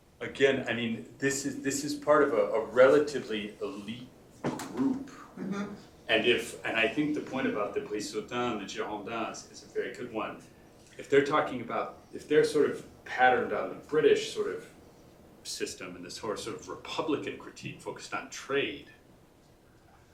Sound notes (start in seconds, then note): 8.0 french